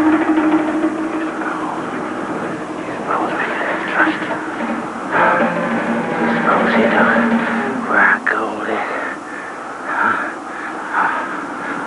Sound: whispering, inaudible

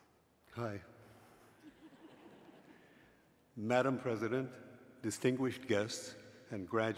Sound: laugh

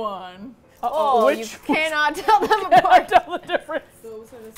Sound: laughing; laughs

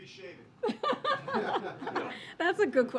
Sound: laughter

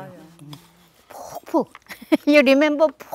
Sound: laughs

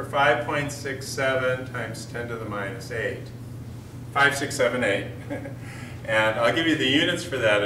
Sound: chuckle

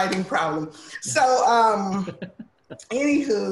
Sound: laughs

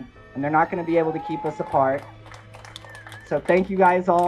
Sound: crowd applauding

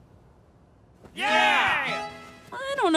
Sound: cheers

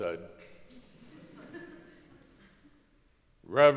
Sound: crowd laughs

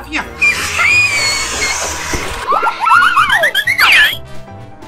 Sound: scream

